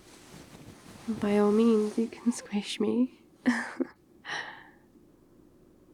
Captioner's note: laughs